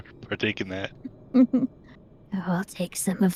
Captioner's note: laughs